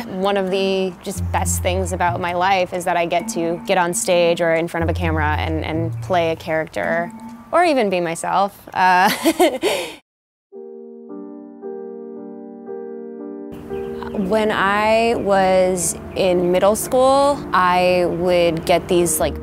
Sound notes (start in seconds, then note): 9.1 laughs; 10.2 sad piano music